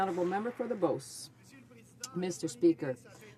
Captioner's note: some Applause